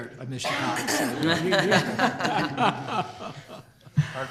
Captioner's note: laughter